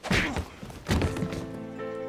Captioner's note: fist whacking; Lex thuds